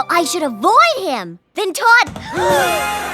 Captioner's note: gasp